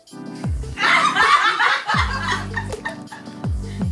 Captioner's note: laughing